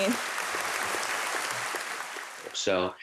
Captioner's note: applause